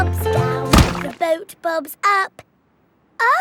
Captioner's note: thuds